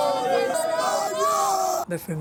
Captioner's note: in Spanish